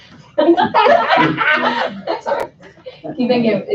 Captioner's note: laughing